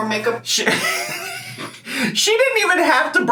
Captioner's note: laughs